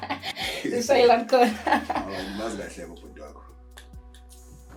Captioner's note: laughing